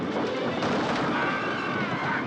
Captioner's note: screaming